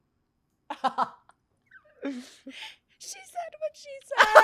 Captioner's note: laughs; laughs